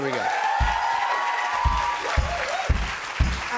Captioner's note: cheers and applause